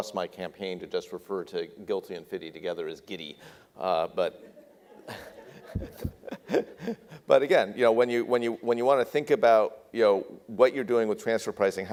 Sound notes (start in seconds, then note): 4.4 audience laughs